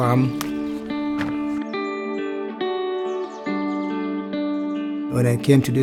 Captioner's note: birds chirping; gentle music